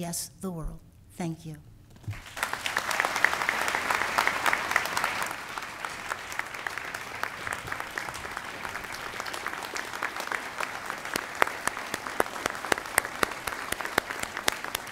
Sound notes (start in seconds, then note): 9.9 applause